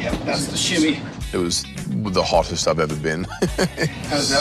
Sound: laughs

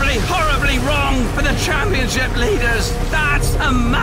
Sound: voice breaking

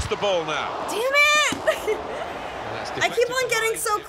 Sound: laughs

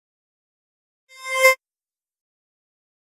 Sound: sound of sweep

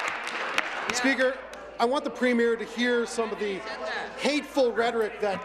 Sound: applause

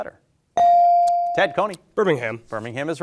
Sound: bell ringing

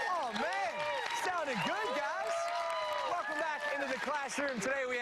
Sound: applause

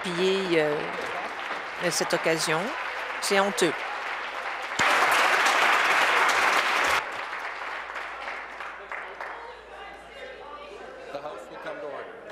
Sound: applause

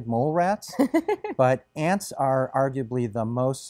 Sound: chuckles

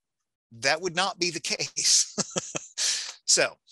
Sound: laughing

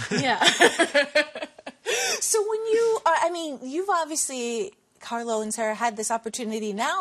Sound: laughter

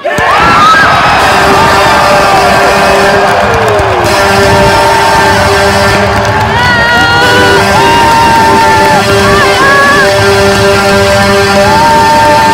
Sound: Phantoms goal horn and song

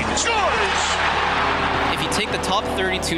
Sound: crowd cheering

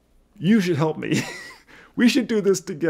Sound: laughs

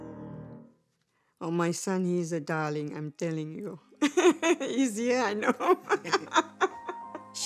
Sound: laughs

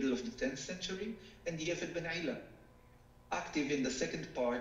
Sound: speaking foreign language

